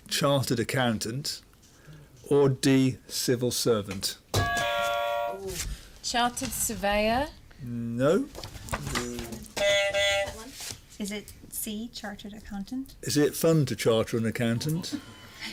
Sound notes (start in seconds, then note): 4.4 buzzer; 9.5 buzzer